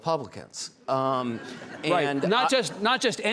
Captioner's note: audience laughing